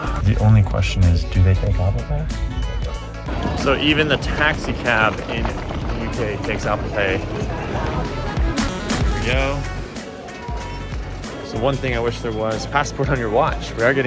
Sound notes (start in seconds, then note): 2.5 watch chimes